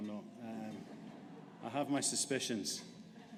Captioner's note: audience laughing